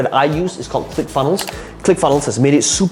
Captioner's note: mouse clicking